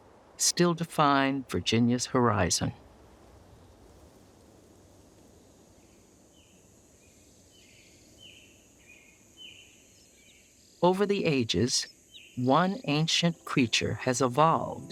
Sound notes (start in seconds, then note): 6.2 birds chirping